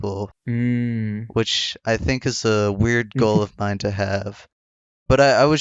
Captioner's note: laughs